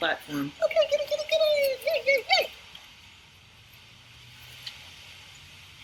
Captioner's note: mimicking dog talking